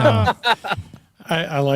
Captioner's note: laughter